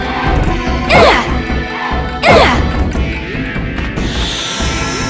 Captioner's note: bop